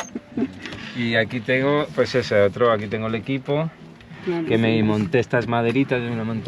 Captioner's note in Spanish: carraspeo